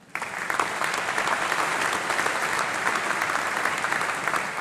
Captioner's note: applause